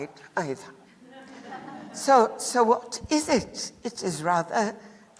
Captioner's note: laughter